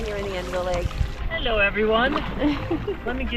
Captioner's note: giggles